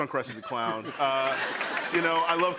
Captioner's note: laughter and applause